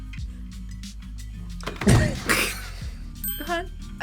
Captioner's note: laughs